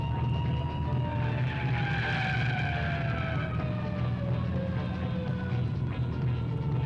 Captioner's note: siren blaring; tires screeching